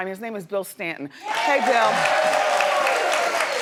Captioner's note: audience cheering